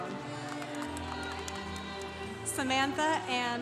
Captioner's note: congregation cheering